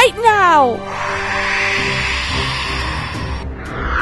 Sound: screech

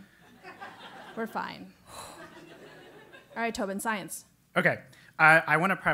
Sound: laugh

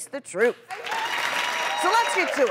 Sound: audience cheering

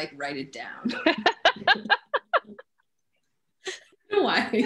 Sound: all laughs

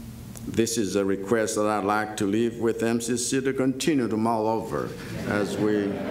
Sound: laughter

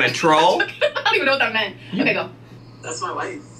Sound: laughing

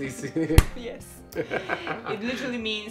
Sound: he laughs

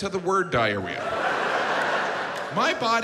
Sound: audience laughs

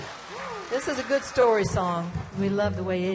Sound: audience applauding and cheering

